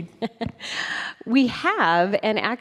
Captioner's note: chuckling